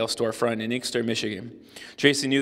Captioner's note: none